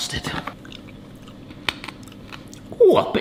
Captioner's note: crunching; lips smack